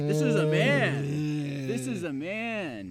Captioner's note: Keith groaning